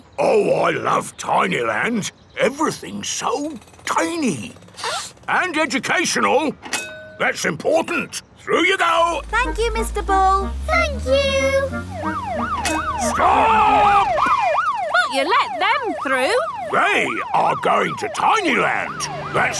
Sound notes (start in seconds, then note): 4.7 sniffs; 12.3 siren wailing